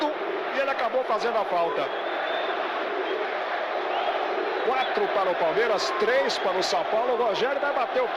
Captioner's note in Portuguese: aplausos